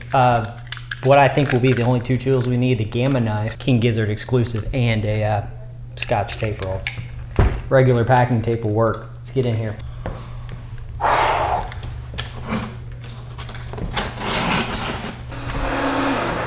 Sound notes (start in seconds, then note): 11.0 wheww